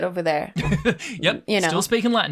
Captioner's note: laughs